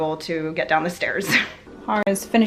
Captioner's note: laughs